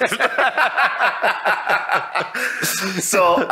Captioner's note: all laughing